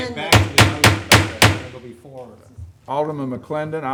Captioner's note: gavel banging